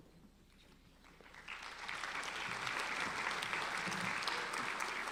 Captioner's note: applauding